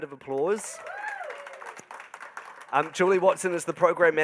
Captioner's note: crowd applauding